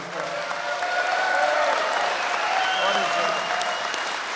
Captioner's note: applause